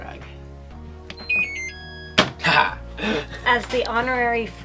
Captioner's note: machine beeping